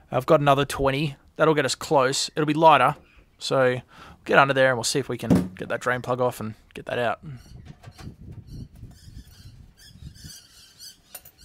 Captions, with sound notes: I've got another 20. That'll get us close. It'll be lighter. So get under there and we'll see if we can get that drain plug off and get that out. (birds chirping)